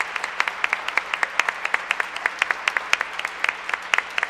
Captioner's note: applause